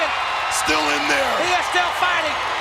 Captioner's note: audience cheers